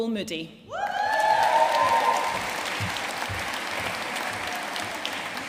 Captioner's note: audience cheering and applauding